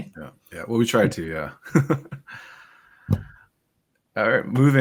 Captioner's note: laughs